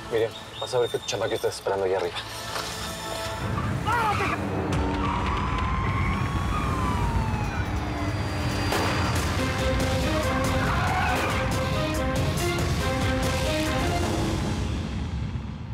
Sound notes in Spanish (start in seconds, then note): 12.0 sirenas